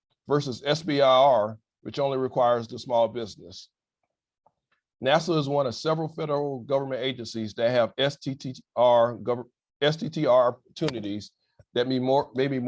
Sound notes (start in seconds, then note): none